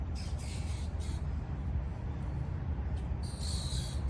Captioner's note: birds squawking